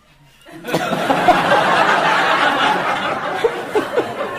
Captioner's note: audience laughing